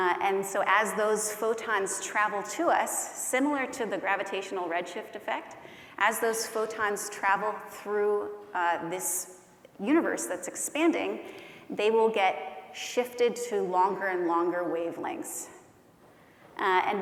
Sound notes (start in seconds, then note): none